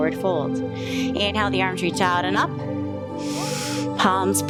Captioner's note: inhales